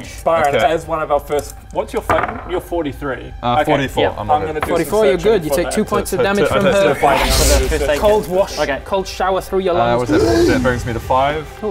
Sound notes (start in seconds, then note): 7.0 whoosch